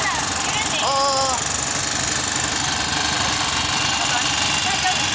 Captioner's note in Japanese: エンジンの音